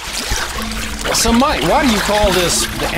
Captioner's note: voiceover